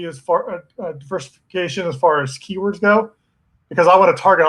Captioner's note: murmurs